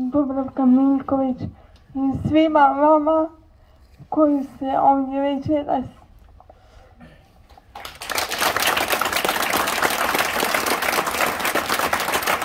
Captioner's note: applause…